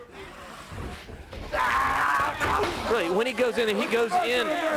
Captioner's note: crowd chatter